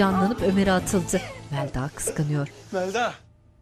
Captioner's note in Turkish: Gülme sesleri